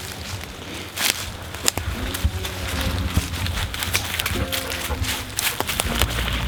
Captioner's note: dried leaves crunching underfoot